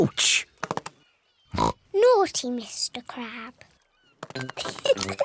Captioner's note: oinks; giggles